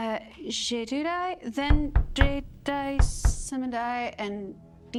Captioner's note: knuckles rapping